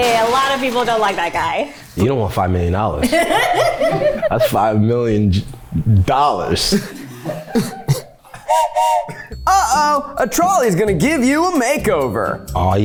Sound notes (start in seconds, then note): 3.0 laughs; 8.4 whistle blows